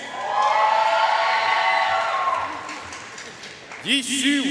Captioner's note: audience cheering and applauding